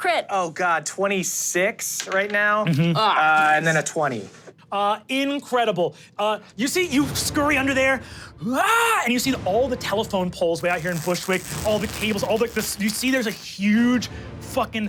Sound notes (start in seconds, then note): 2.4 dice rolling; 7.9 screams